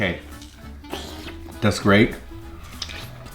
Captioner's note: slurps